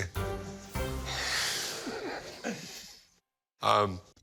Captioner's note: laughs